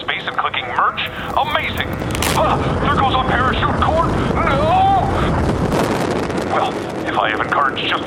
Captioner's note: ripping sounds